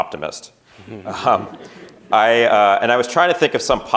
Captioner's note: chuckling